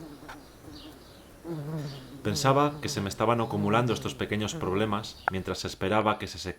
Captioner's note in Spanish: Voz en off